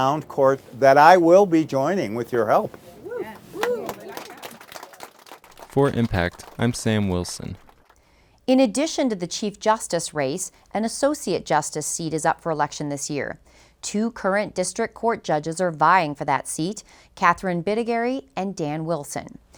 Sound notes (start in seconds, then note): 3.1 audience applauds